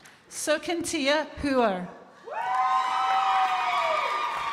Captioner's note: crowd applauding